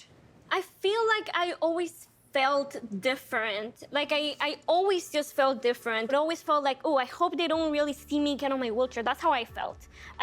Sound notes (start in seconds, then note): none